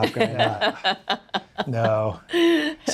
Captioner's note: laughing